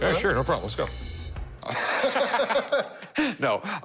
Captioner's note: laughter